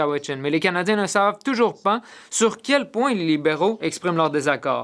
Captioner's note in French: voix de l'interprète